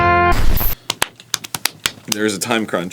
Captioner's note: slap-drumming on his leg skin